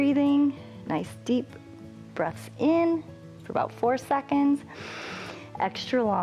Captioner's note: inhales